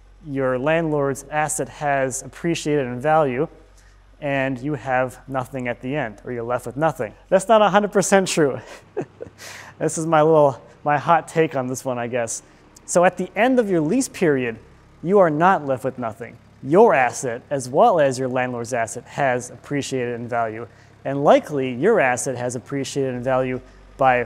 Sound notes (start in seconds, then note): 8.3 chuckling